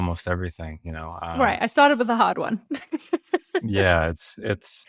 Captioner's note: laughs